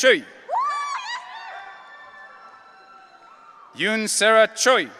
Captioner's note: audience cheering